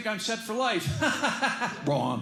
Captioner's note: laughs